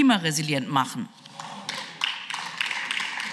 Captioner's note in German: Beifall